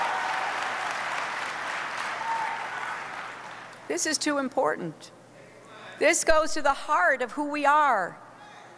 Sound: applause

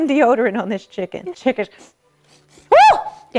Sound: sniffs

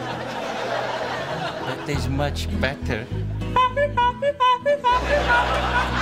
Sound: honking

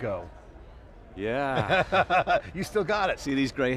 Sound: laughing

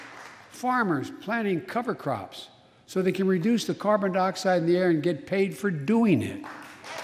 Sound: applause

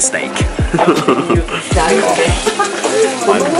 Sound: laughs

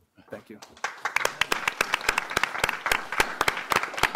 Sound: applause

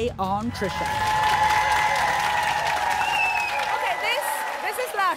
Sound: applause

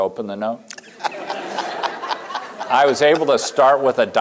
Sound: laughter

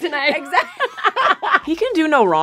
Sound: laughter

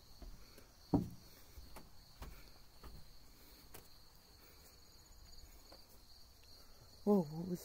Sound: A Light Fixture Surrounded By Flying Mosquito's

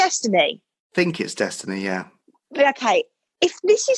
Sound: male Voice

